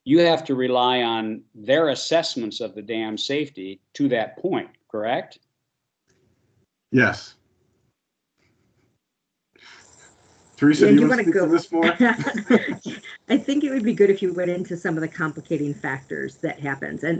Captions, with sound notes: you have to rely on their assessments of the dam safety to that point, correct? - Yes. Teresa you want to speak to this more? [all chuckle] - I think it would be good if you went in to some of the complicating factors that happen,